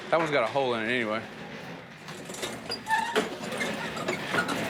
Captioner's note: chairs rolling and squeaking